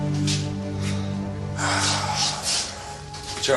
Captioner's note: Въздишки